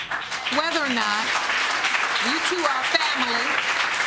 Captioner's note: audience applauding